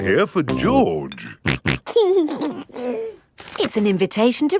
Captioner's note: snorting and giggling